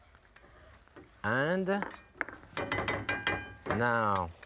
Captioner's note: spoon dinging